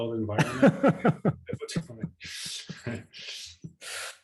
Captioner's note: laughs